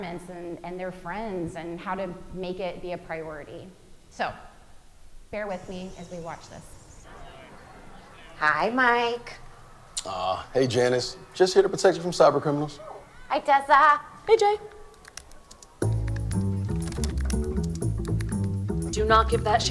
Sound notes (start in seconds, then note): 14.7 keyboard clicking; 15.8 upbeat music